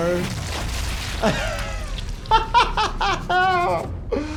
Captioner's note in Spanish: risas